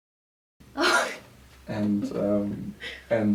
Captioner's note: laughs